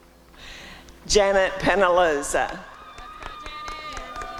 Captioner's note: applause and cheering